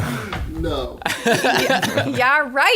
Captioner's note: laughter